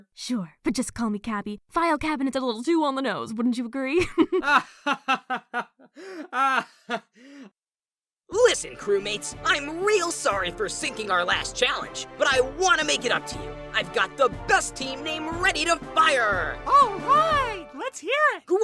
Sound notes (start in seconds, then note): 4.0 giggles; 4.5 fan laughs; 6.2 fan laughs... awkwardly